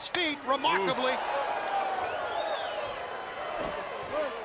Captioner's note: crowd clamoring